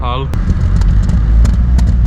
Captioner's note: Xsara fart noises continue